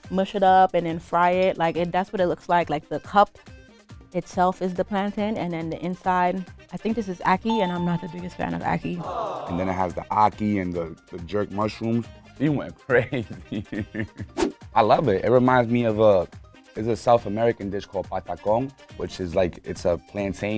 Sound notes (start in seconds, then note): 7.4 bell dings